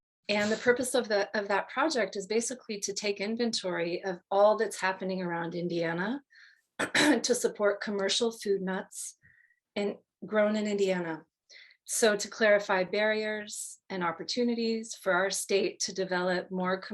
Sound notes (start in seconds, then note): 6.8 cough